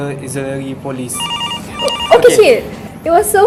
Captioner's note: phone ringing